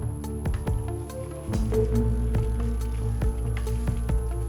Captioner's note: bike rattling